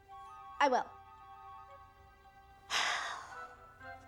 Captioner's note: sighs